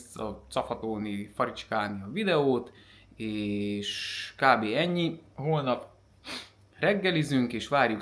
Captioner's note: snort